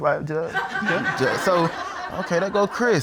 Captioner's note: audience laughs